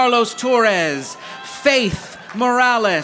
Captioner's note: audience applauding